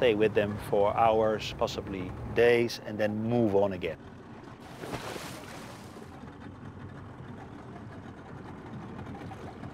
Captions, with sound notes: stay with them for hours, possibly days and then move on again. [water splashes]